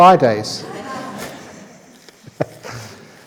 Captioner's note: laughs